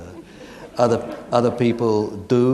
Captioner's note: audience laughing